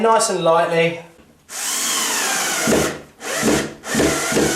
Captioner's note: power screwing